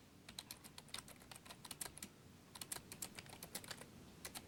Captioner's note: keys clacking